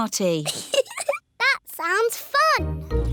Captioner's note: giggles